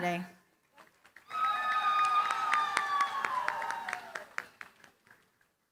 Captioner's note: cheering, applause